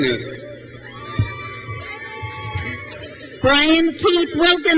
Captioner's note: crowd cheers